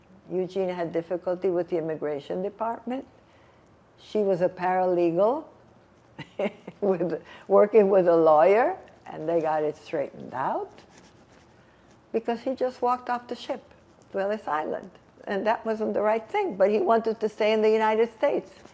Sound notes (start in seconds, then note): 6.1 laughing